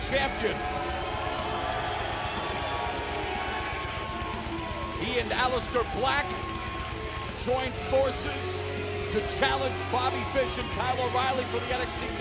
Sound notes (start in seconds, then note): 5.4 crowd cheering